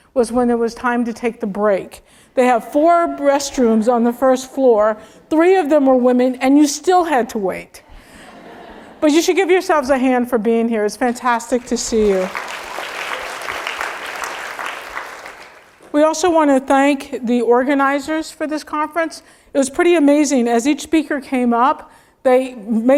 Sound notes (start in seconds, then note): 8.4 laugh; 14.7 applause